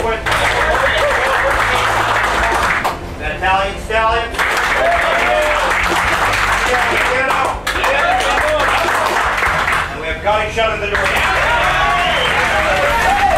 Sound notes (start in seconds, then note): 0.0 applause; 4.3 applause; 10.8 cheering and applause